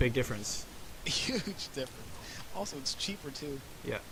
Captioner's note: chuckling